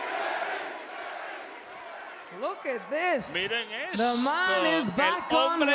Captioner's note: applause